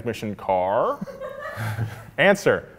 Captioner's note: a lady laughing